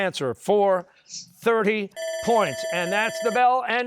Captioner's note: bell ringing